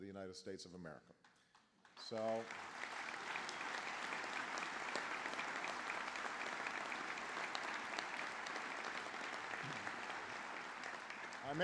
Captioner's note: applause